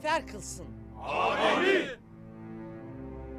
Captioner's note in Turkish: Hep bir ağızdan